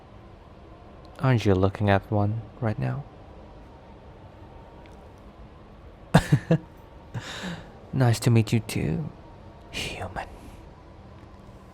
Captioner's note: chuckle